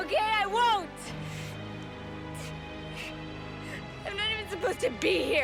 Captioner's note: sobs